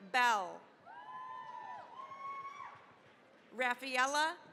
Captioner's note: cheering, applause